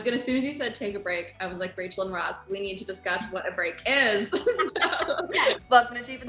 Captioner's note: laughs